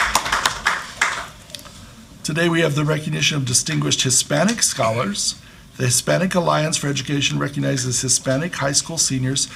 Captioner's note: applause